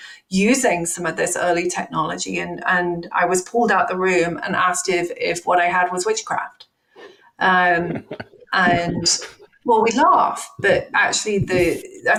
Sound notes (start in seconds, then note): 7.7 laughing